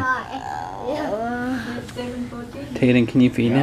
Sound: groans

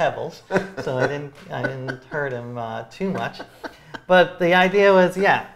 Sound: laughs

